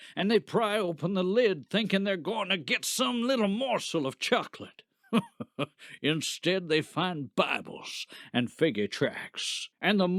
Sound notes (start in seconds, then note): 5.1 laughs